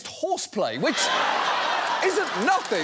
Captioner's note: audience laughs